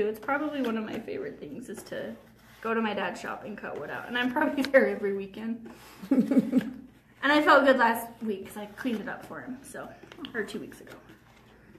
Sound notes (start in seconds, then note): 6.0 chuckles; 6.0 laughs